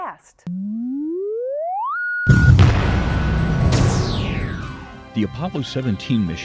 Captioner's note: sound Effects